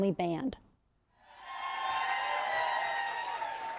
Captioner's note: cheers and applause